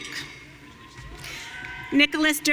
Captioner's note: audience cheering